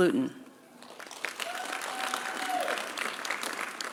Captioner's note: applause